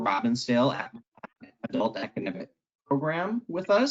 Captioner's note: crackling drowns down speaker